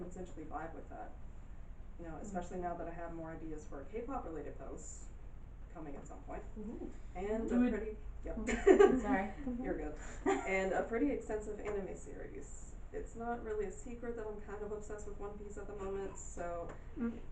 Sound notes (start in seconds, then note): 8.0 audience murmuring